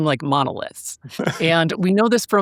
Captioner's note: laughing